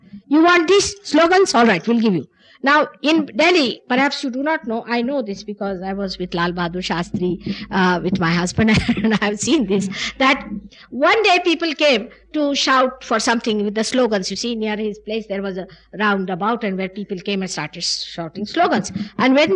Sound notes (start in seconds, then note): 8.6 she laughs